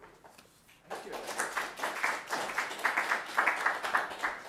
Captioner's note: audience applauding